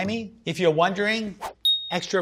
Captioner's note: ding